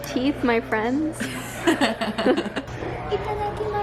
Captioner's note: laughing